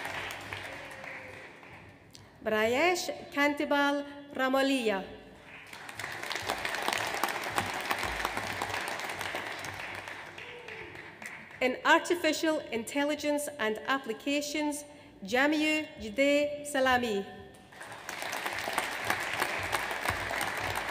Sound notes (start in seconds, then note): 5.4 audience applauds; 17.7 audience applauds